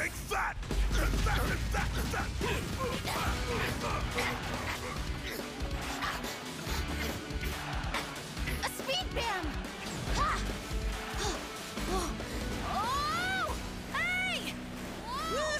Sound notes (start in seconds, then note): 1.7 grunting; 10.5 Juno panting